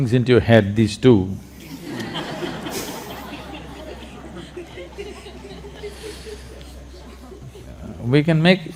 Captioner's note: laughter